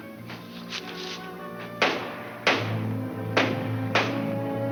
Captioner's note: banging